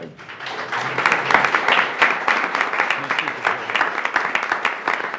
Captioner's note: board members applauding